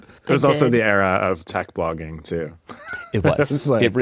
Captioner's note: laughs